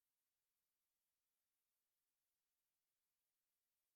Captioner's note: none